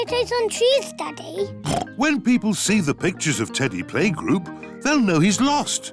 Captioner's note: oinks